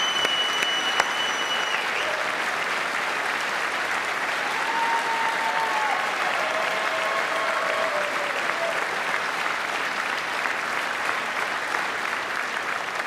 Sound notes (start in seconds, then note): 0.0 applause